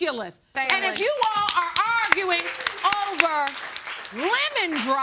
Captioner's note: crowd applaud